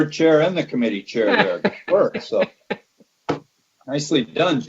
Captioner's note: laughter drowns out other sounds